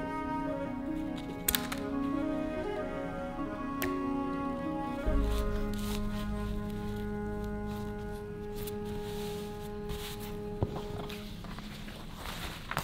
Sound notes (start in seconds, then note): 1.3 scissors snipping; 4.9 fabric rustling; 6.1 classical music